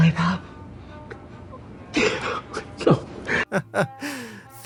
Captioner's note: sobs